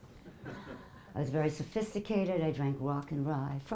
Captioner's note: audience laughing